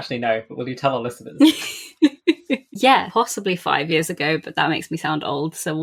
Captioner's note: laughs